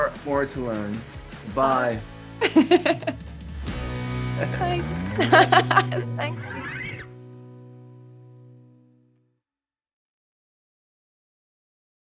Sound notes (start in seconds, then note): 2.6 both laughing